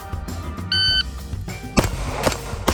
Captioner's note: gadget beeps; gunfire popping